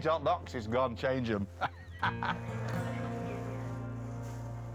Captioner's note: laughs